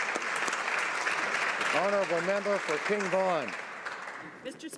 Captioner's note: applause